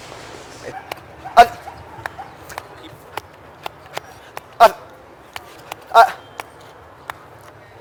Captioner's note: chomps